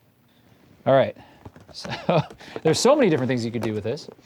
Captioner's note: laughs